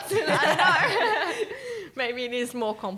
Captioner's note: laughing